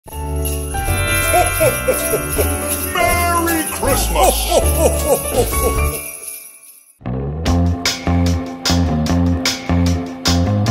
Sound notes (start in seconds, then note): 0.9 Santa laughing; 7.0 upbeat music